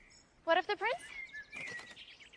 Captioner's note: chirping